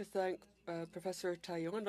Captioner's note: speaking French